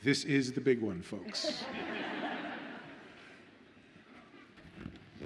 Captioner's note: audience laughs